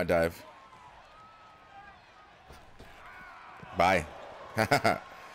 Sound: applause; applause; laugh

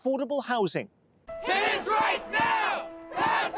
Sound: crowd

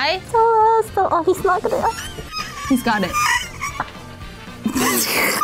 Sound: mumbles beneath the mask

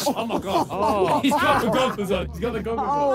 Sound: players laugh

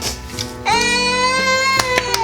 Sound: crying

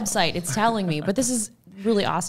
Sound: chuckles

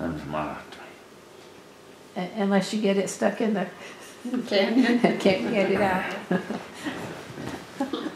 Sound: laughs

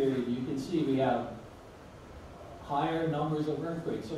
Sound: none

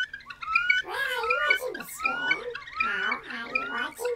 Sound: high-pitched artificial sound

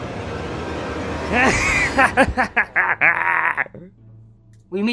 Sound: boggo boogo laughs

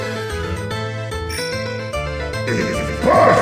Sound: ring!

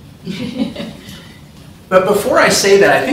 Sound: laughter

